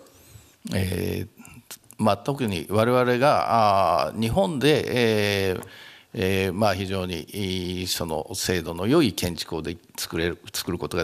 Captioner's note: speaking japanese